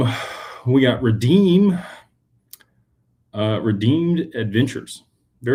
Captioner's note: sighs